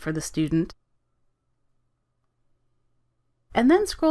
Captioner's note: silence